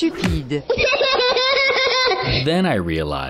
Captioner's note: laughing